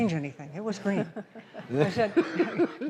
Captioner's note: laughs